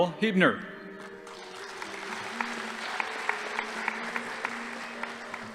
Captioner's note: audience applauding